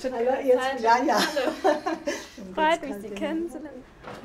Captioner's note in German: lachend